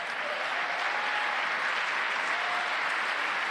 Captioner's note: applause